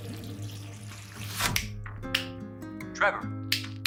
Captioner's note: Philip clicks his fingers